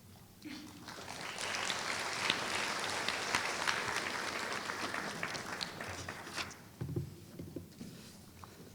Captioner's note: applause